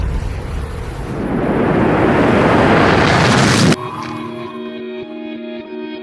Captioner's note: inverted flashbang explosion